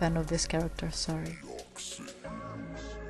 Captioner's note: whispers